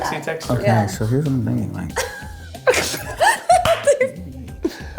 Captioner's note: laughs